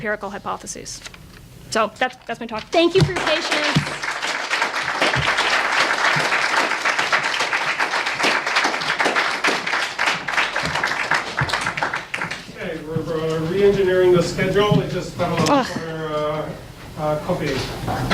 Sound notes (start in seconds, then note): 3.0 audience applauds